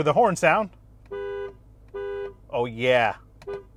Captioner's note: horn honking